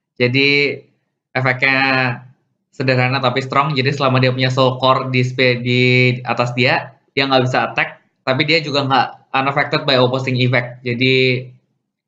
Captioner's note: reading first effect in Indonesian